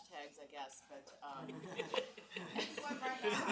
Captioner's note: audience laughs